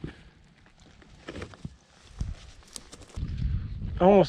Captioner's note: gravel crunching